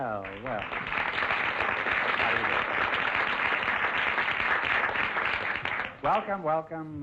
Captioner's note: applause